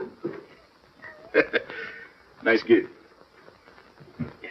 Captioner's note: laughing